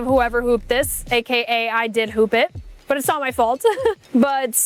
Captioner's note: laughing